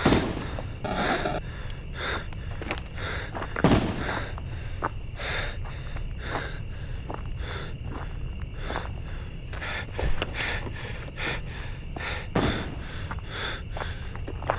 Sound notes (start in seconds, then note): 0.0 distant gunshots; 8.4 heavy breathing